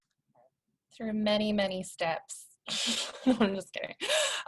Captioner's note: laughter